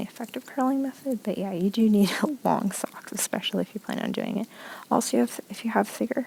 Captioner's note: laughs